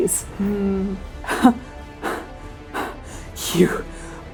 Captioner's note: shallow breathing